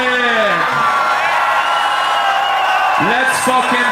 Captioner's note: crowd cheers